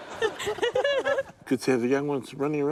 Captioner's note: both laugh; chuckles